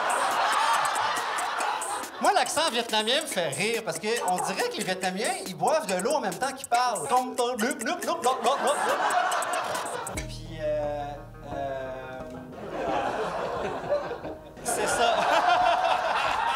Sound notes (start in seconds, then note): 0.0 laughs; 14.5 laughs